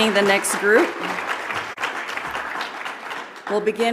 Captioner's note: audience applauds